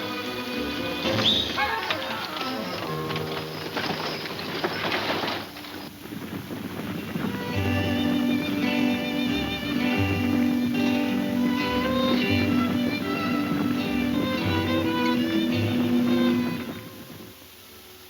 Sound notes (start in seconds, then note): 1.0 one whistles; 2.8 hooves thundering; 2.8 wagon rattling; 6.5 slow latino music